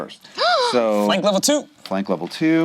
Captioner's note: gasps